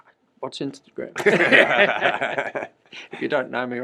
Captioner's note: laughter